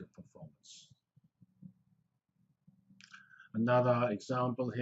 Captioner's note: pause